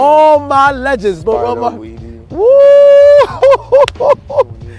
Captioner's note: laughing